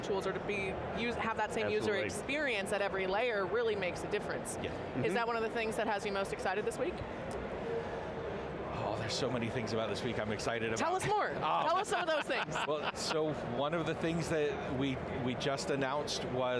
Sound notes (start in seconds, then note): 11.6 laughing